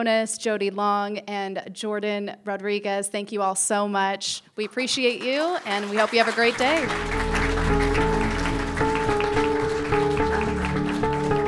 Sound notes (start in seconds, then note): 7.0 people applauding; 8.8 calm music